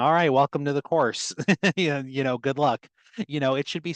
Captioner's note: laughter